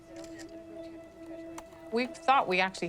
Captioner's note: cell phone camera clicking